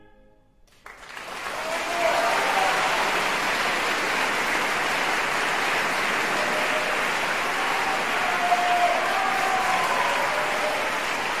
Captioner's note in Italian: applausissimo